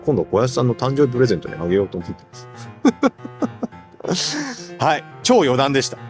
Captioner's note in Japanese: 笑い